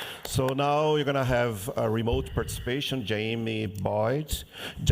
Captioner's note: applause